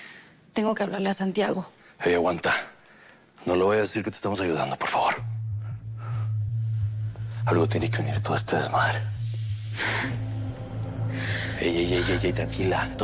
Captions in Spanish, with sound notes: - Tengo que hablarle a Santiago. - Ey, aguanta. No le vayas a decir que te estamos ayudando, por favor. Algo tiene que ver en todo este desmadre. [Sollozos] Ey, ey, ey... tranquila.